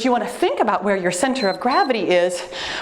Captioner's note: timer beeps